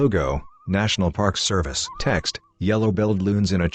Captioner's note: birds chirping